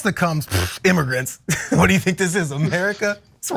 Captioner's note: laugh